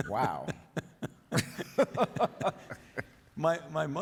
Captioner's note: Drs Fauci and King laugh